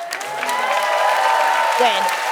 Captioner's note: cheering and applause